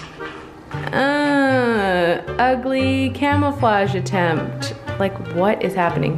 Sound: grunts

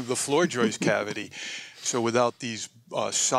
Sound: laughter

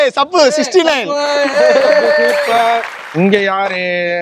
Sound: cheering

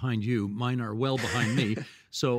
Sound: laughing

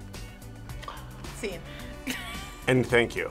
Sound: gasps; laughs

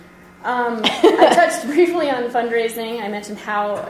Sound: voiceover

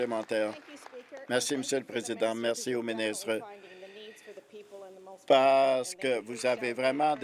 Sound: applause

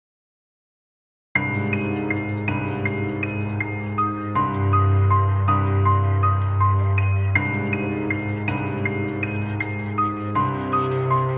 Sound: sound of haunting

